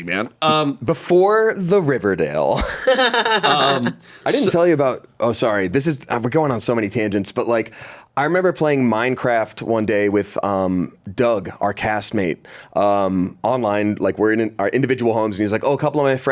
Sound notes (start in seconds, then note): 2.6 laughs